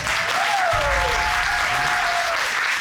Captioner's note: applause